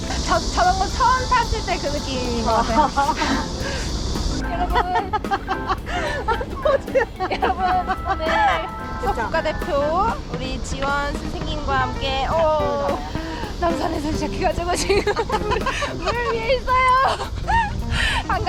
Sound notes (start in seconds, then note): 4.4 laughter